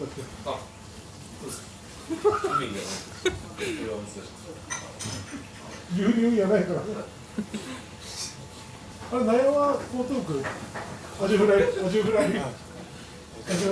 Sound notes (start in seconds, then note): 7.4 laughs